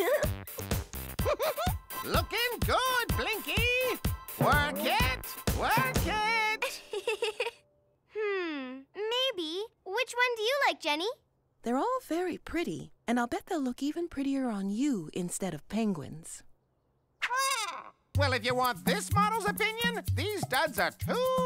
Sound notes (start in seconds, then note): 1.2 Willa laughing